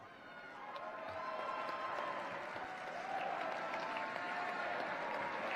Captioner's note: cheers, applause